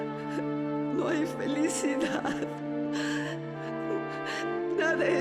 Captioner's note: sobs